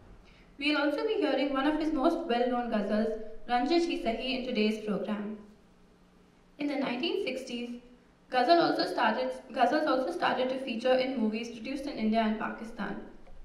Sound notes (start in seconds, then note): 3.6 non-english speech